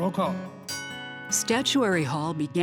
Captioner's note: bell rings